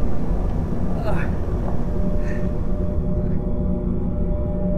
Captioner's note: grimacing in pain